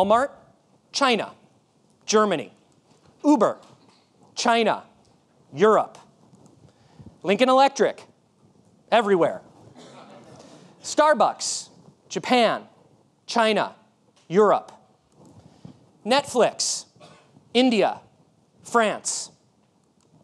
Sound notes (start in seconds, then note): 9.8 audience laughing